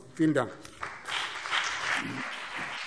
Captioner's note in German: Beifall BÜNDNIS 90/DIE GRÜNEN und CDU